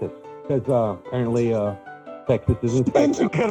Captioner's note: laughter